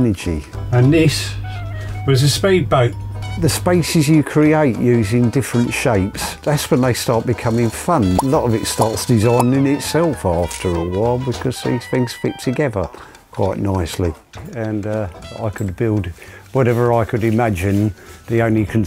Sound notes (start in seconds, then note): 8.1 popping; 16.7 sawing